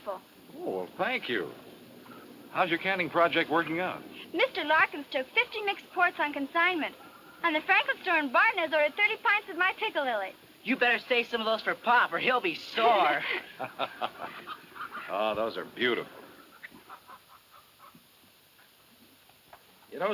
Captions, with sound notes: - Oh, well, thank you. How's your canning project working out? - Mr. Larkins took 50 mix quarts on consignment. And the Franklin store in Barton has over 30 pints of my piccalilli. - You'd better say some of those for pop or he'll be sore. (laughs) - Oh, those are beautiful.